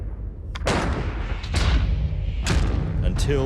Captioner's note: musket fires